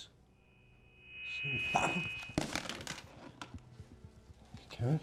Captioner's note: loud screeching noise